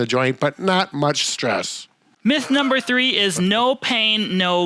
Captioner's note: softly laughs